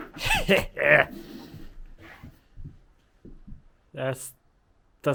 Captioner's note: speaker exclaiming